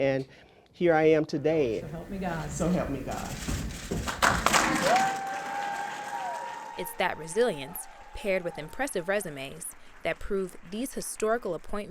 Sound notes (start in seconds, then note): 6.1 crowd cheering and applauding